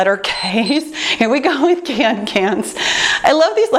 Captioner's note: timer beeps